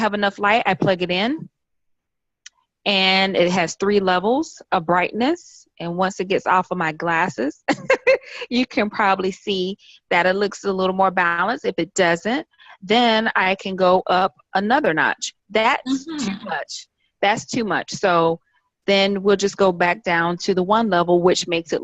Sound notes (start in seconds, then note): 7.7 chuckles